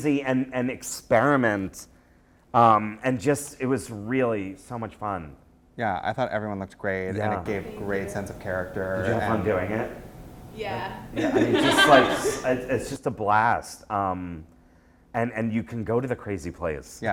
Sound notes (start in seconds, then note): 9.2 voiceover; 11.1 laughter